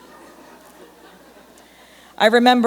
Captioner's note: laughter